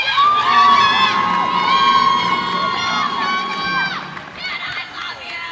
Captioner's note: cheers and applause